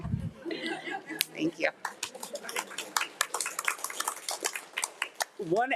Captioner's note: crowd applauding